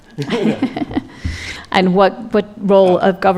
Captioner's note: laughter